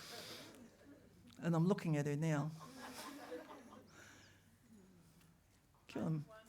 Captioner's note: laughter